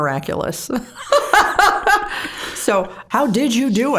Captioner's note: both laughing